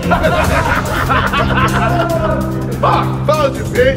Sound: laughing

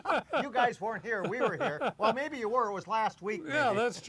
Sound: laughs

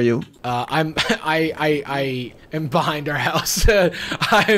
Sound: laughs

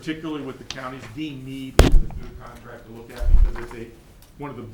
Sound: audio glitch

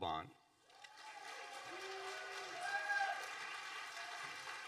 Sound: audience applauding

